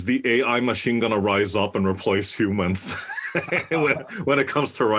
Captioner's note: laugh